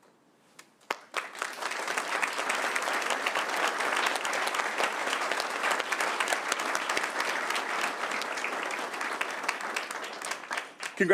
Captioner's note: applause